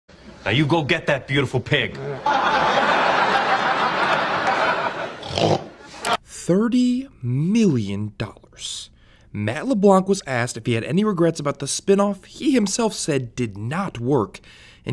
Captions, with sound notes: Now, you go get that beautiful pig. [LAUGHTER] [MAKES PIG NOISE] $30 million. Matt LeBlanc was asked if he had any regrets about the spin-off he himself said did not work.